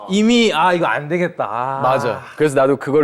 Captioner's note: groans